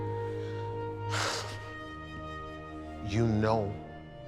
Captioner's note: haunting orchestral music; sighing